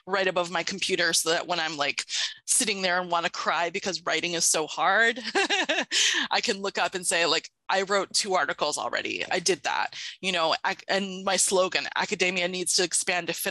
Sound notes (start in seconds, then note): 5.2 laughs